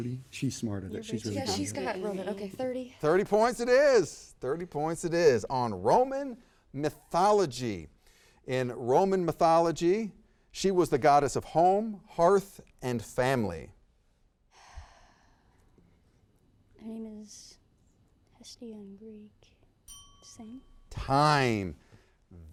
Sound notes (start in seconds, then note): 14.6 sighs; 19.8 bell dings